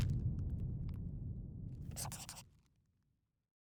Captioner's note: scribbling